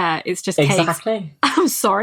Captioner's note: laughing